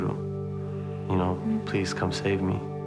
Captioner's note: speaking foreign language